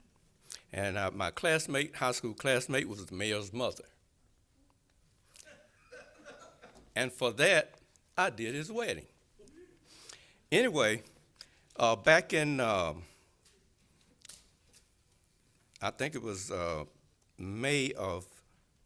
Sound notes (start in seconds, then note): 9.0 laughter